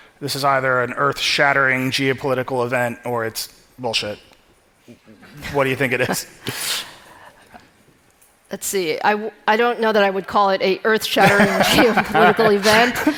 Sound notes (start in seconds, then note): 5.3 audience laughing